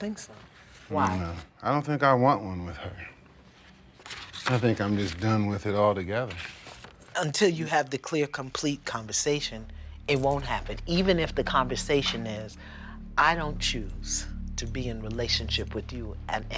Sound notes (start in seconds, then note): none